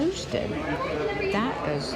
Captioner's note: patrons chattering